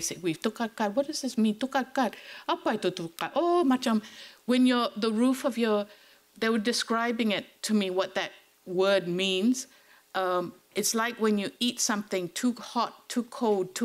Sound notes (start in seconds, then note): 1.7 speaking foreign language